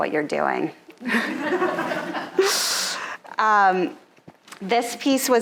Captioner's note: audience laughing